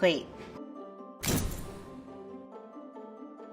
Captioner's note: pounding; whimsical music